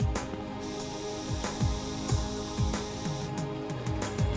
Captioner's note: hissing